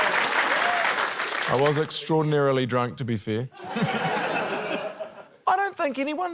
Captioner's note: laughter